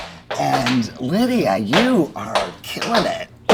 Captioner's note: dancers tapping